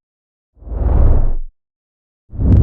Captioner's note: whoosh; whooshing